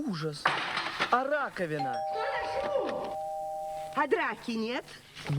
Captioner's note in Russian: звонок в дверь